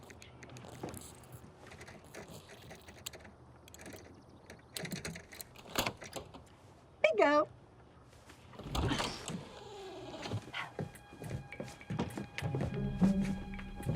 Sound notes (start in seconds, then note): 5.8 lock clicks open; 8.5 door creeks open; 10.4 suspenseful music